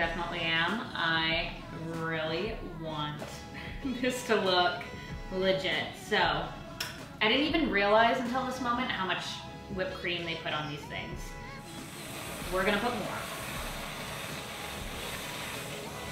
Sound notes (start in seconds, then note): 11.7 whooshing